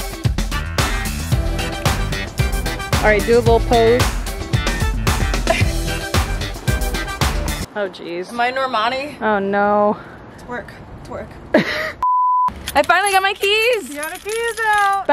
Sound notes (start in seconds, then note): 11.5 laughs; 12.0 beeping